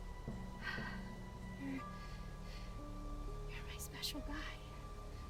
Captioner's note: sighs